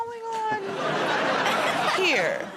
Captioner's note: laughter